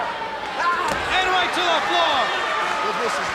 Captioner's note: Ric thudding on mat